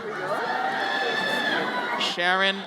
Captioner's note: audience cheers